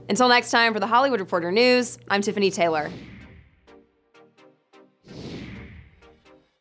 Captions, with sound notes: Until next time, for The Hollywood Reporter News, I'm Tiffany Taylor. (synthesizer music) (whooshing)